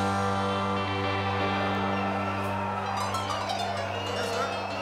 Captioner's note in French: cris d'enthousiasme